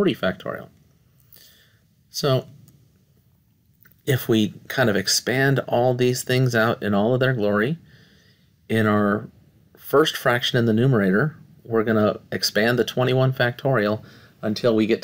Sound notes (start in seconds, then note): 0.5 no Speech Detected